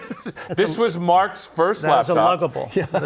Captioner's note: laughter